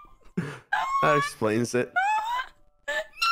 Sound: screaming

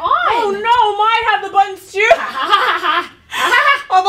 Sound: laughs

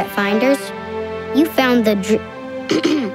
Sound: clearing throat

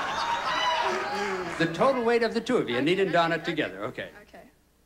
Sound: audience laughing

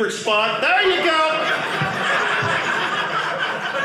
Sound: audience laughing

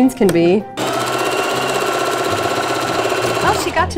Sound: sewing machine running

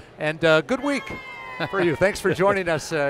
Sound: laughs

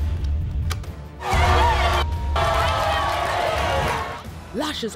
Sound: suspenseful music; crowd booing

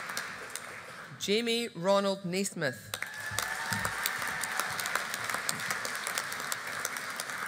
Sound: audience applauding

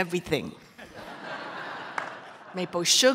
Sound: audience laughter

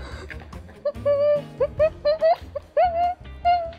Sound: laughing in pain

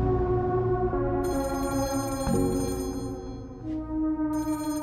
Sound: telephone rings

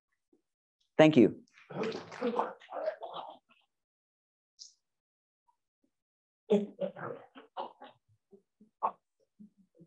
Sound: applause

